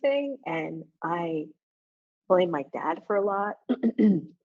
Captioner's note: coughs